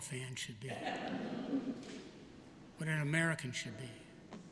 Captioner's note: laughter